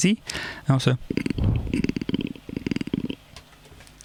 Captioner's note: makes purring noise